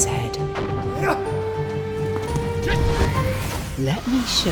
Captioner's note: grunting